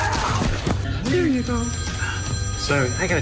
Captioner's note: phone ringing